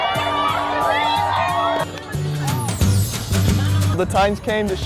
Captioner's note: crowd cheering; upbeat acoustic guitar